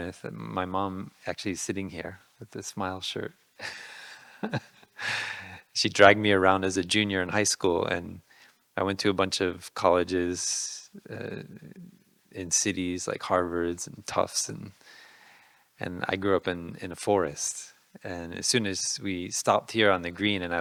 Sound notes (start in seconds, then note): 4.3 laughing